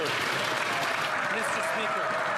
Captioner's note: some Applause